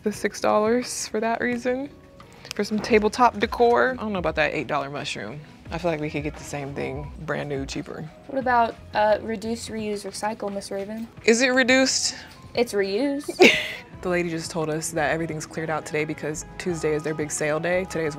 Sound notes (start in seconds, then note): 13.3 laughing